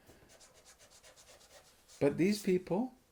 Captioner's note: eraser scratching